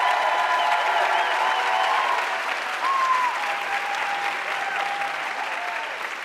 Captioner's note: audience cheering and applauding